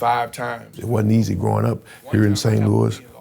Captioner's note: continues faintly